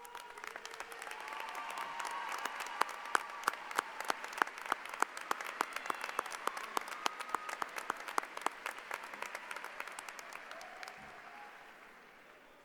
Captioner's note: applause